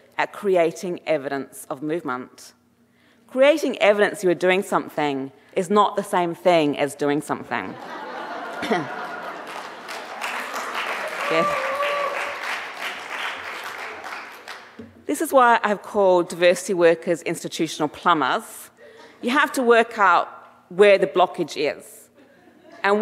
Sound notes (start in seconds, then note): 7.7 audience laughing; 9.0 audience applauding and cheering